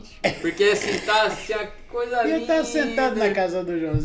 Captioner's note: laughs